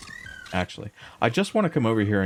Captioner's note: squeaking